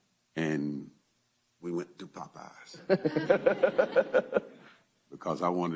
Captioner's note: laughter